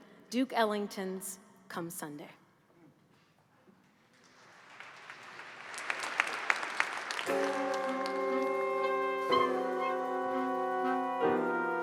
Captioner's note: applause